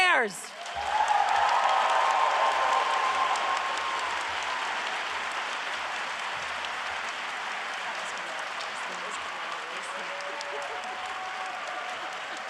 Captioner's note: applause